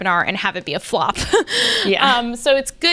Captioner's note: laughs